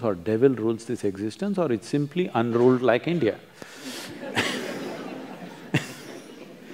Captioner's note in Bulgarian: смях